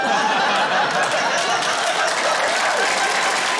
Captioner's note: laughter, applause